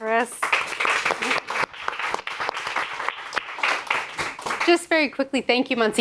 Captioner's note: audience applauding